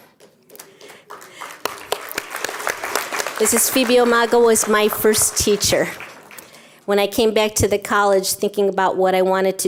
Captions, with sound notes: [CLAPPING] Mrs. Phoebe Omagle was my first teacher. When I came back to the college thinking about what I wanted to